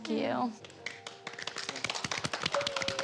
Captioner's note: applause